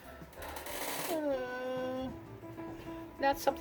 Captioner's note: sigh & whine